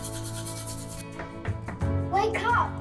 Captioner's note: gentle orchestral music continues; hand knocking on door